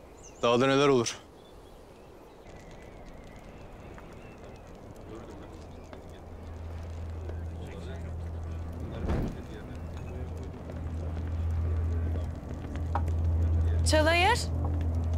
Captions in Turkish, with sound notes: Dağda neler olur? [Uğultu ve Takırtı Sesleri] Çalayır!